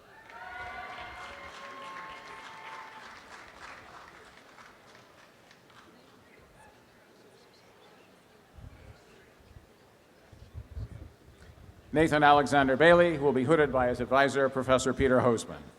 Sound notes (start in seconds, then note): 0.0 applause; 5.9 background chatter